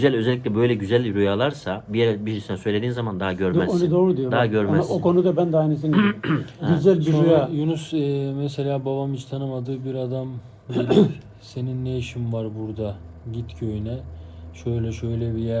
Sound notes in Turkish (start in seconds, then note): 5.9 boğazını temizler